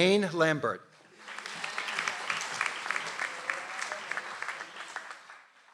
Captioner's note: audience applauds